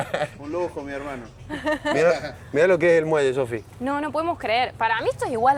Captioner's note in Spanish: risas